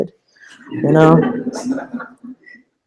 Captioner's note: laughter